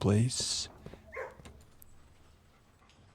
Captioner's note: dog barks